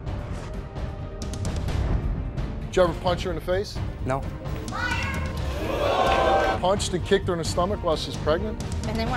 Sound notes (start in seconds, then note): 5.4 audience whoops